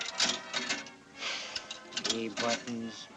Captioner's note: sighs